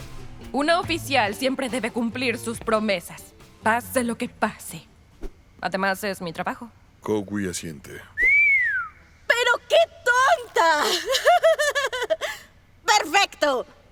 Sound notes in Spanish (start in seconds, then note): 8.1 Silbido; 10.8 Risas